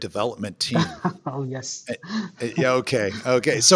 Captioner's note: laughs